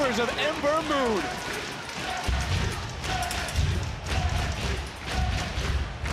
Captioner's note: crowd cheering